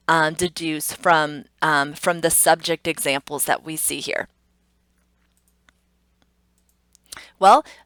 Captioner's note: computer mouse clicks